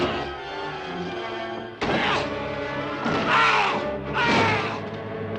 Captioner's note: door thudding